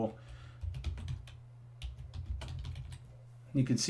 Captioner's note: keys typing